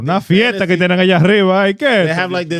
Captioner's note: speaking In Foreign Language